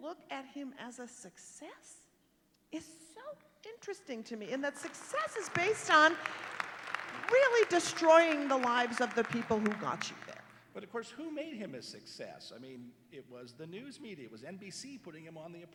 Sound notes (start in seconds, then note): 6.4 applause